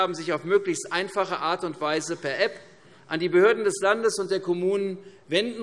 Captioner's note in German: none